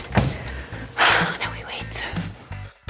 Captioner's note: sighs